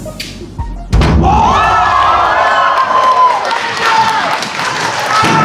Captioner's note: spectators applauding